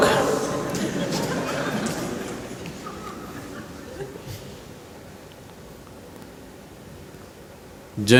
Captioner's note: laughter